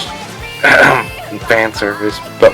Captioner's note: ahem